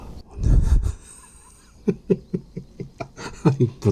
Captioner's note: laughing